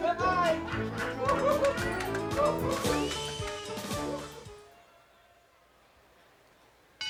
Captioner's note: cheerful circus music; both laughing